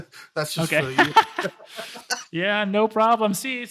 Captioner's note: laughs